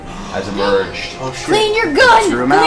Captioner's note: all gasp